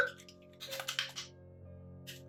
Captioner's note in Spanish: ruido de manos frotando la espuma con agua